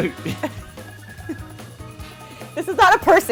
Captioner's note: laughs